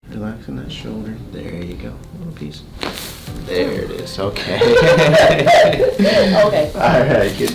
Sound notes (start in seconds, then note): 2.7 cracking; 4.4 laughing